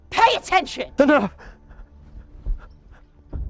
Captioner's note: whimpering; suspenseful music